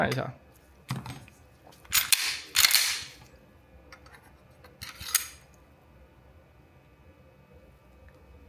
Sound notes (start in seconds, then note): 1.5 gun disassembly sound